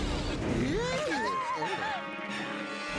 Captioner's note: all screaming